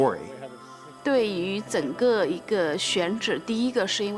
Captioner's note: speaking Mandarin